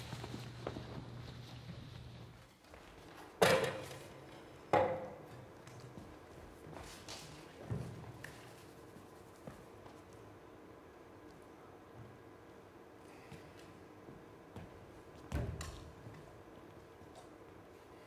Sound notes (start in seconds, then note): 3.5 music stand clunks